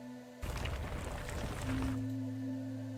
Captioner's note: gravel sounds